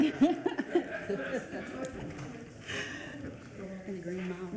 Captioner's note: everyone laughing